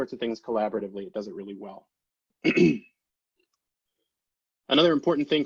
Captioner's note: clears throat